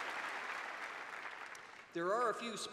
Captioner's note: cheers and applause